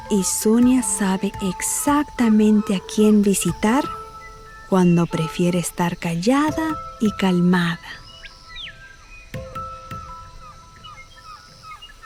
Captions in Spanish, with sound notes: Y Zonia sabe exactamente a quién visitar cuando prefiere estar callada y calmada. (pájaros trinando)